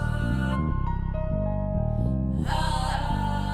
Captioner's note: whispering